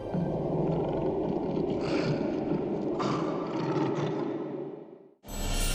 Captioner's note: lion growling